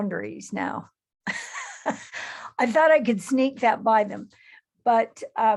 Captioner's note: chuckles